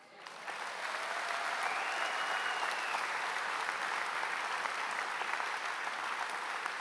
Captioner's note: applause